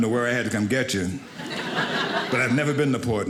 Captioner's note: audience laughing